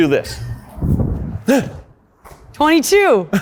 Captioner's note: shouts loudly